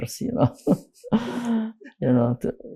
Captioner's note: laughing